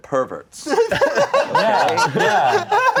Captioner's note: everyone laughing